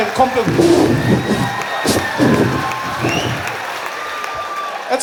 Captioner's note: sound of wind